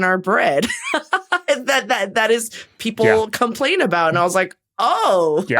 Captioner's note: laughs